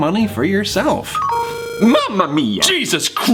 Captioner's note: game notification buzzes